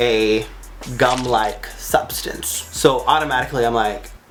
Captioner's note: squelch